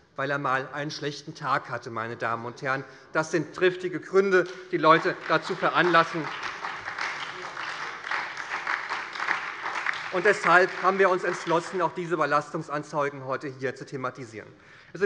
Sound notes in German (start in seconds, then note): 6.2 Beifall bei der SPD